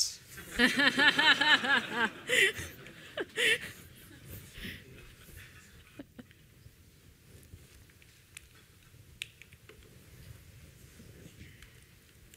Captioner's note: laughter